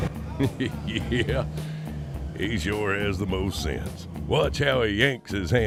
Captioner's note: laughing